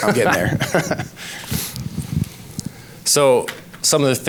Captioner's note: laughs